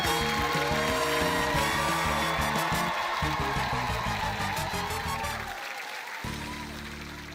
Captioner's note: cheering, applause